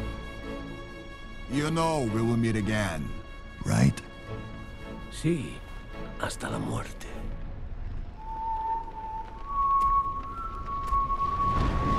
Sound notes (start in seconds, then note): 8.1 whistles mournfully